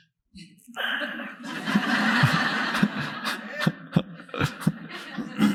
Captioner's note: audience laughing